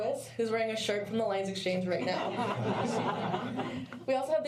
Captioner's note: laughter